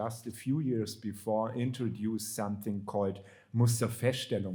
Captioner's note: speaking German